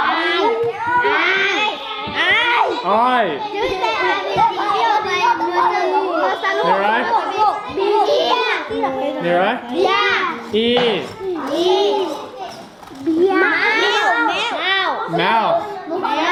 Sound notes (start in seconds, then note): 9.5 kids In Unison